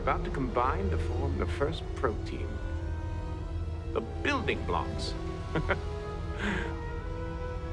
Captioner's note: laughs